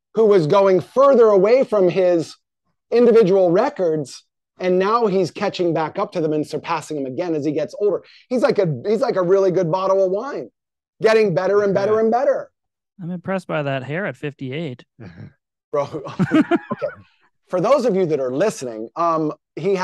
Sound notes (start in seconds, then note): 15.8 chuckling